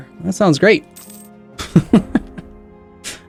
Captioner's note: sarcastic chuckle